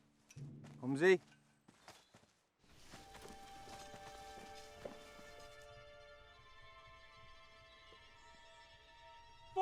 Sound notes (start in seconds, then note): 1.0 speaking German